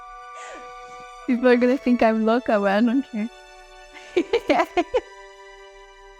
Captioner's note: laughs; laughs